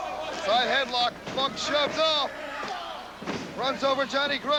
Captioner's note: crowd cheering